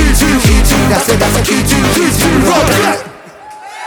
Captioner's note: blat